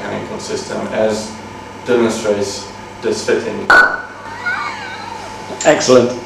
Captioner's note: student pulls apart a component making a loud 'pop' sound